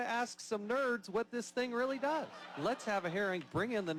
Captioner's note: laughter